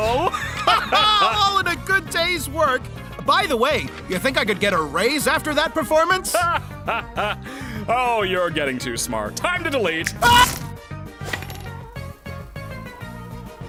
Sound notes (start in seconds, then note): 0.0 both laugh; 6.2 laughs